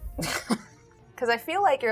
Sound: chuckles

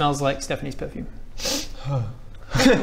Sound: sniff

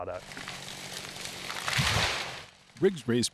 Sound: chainsaw roaring

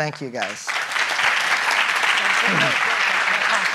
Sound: applauding

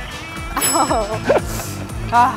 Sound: chime

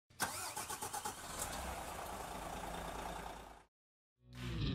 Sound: car engine start

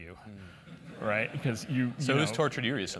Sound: laugh

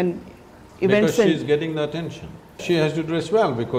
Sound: interupts

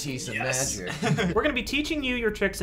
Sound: laughs

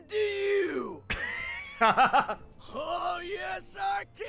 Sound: laughs

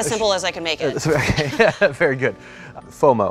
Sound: laughs

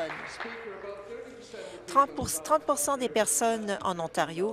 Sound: applause

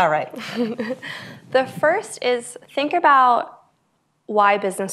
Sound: laughs

